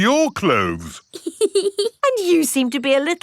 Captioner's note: laughs